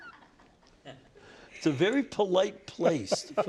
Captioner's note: laughter